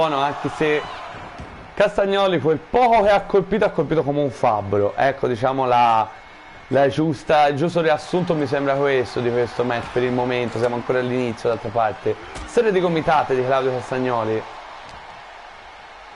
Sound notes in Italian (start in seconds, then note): 14.7 Applauso